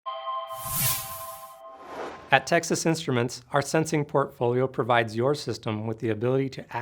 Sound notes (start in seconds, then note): 0.1 bright tone; 0.5 logo whooshing